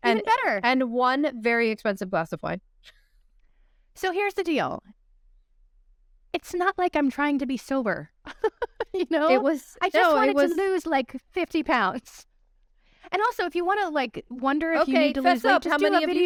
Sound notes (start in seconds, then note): 8.2 laughter